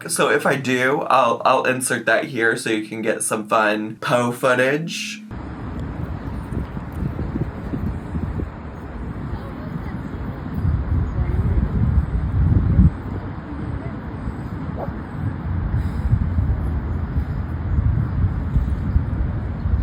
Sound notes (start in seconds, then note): 5.7 wind blowing